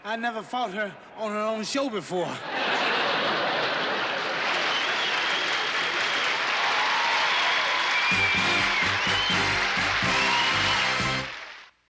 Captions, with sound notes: I never fought her on her own show before. [ Laughter ] [ Cheering ] [ Orchestral music ]